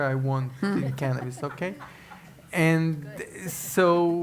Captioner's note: laugh